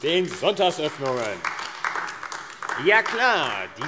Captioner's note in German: Beifall AfD